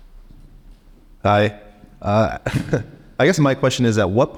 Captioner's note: laughs